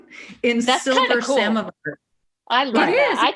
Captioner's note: audio warps